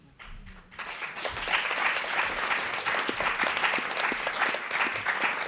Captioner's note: applause